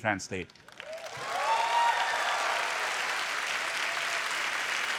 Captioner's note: applause